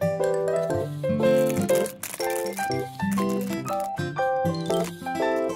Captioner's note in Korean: 뒤적뒤적